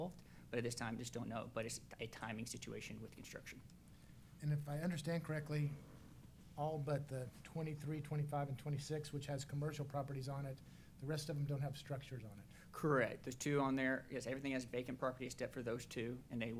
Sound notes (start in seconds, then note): none